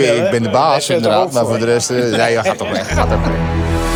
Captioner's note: haha